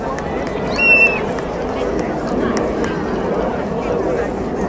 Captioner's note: crowd whistles